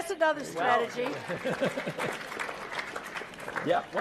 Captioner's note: laugh; applause; laugh